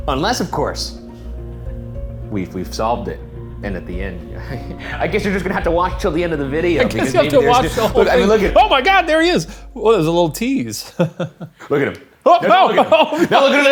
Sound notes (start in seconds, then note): 10.8 chuckles